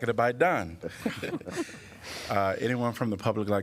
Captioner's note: laughter